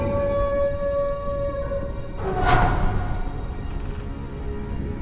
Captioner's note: porthole creaks